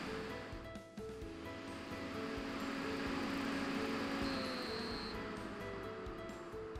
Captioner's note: fan whirrs to speed and ozone generation starts; Catalyst buzzes and fan stops